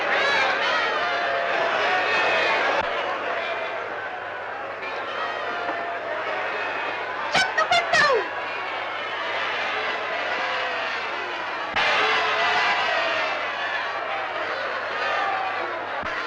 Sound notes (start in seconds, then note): 9.3 crowd shouting